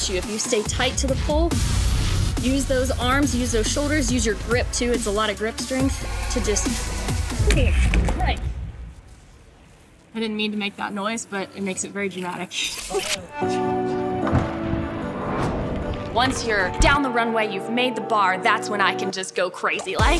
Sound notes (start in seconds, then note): 13.2 laughs